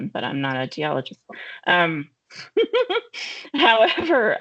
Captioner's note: laughing